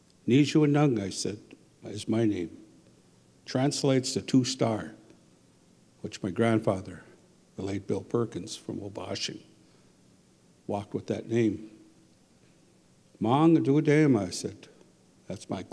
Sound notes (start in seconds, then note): 0.1 speaking Ojibwe; 12.7 speaking Ojibwe